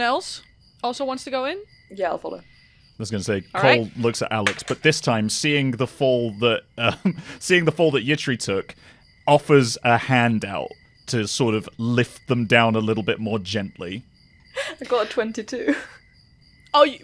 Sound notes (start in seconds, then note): 4.4 dice clacks; 6.7 chuckles; 14.5 laughing; 15.6 laughter